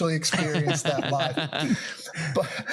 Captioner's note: laugh